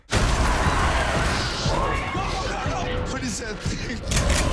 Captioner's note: screaming